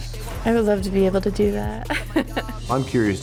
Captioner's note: laughs